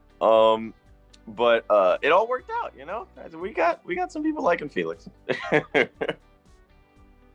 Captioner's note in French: rire